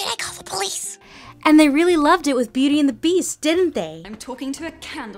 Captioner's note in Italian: voce fuori campo